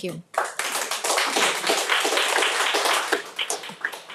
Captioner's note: audience applauding